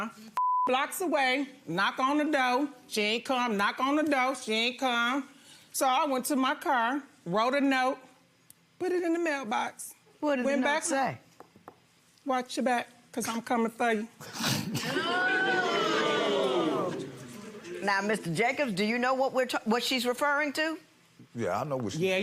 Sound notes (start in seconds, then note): 0.4 beep; 14.8 audience oohs